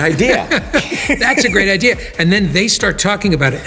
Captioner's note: laughing